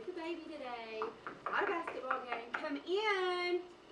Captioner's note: knocking